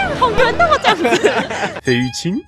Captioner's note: laughs in moon appreciation